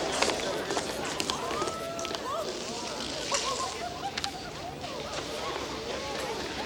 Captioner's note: townsfolk murmur and giggle